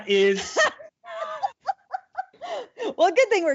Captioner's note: laughing